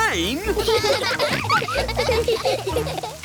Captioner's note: all laughing